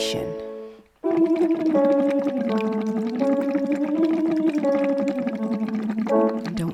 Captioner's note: piano scales continue; humming continues